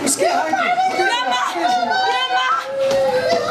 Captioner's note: Arabic